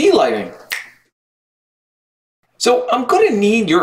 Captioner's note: fingers snapping